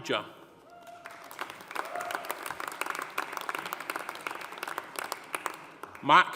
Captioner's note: audience cheering; audience applauding